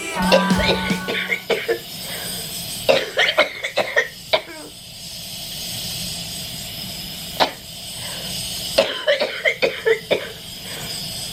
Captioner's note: coughing and nebulizer machine running